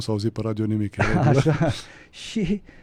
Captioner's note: laughter